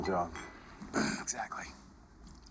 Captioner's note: sighs